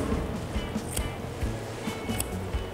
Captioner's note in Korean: 가위질 소리